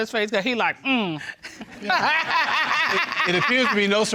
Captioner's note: laughs